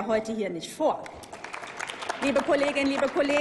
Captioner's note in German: Applaus